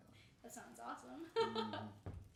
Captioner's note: laughing